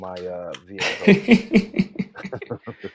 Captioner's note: laughs